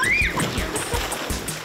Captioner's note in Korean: 으악!